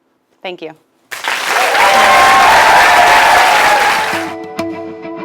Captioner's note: applause